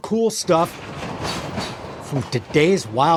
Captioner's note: train chugging